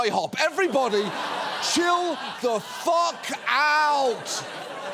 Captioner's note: studio audience laughs